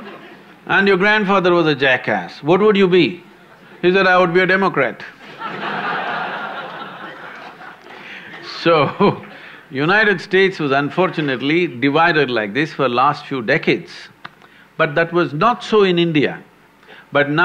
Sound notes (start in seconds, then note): 5.2 laughter; 8.9 laughs